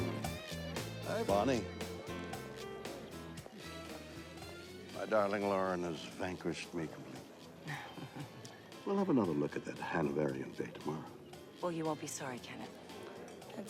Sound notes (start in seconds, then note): 7.6 Lauren chuckles